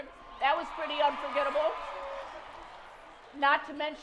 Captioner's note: cheering